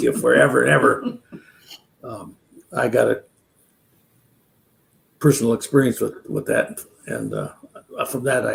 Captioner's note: laughs